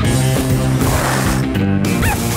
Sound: barking

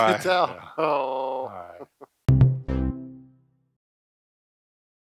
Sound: growls

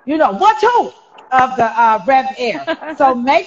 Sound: laughing

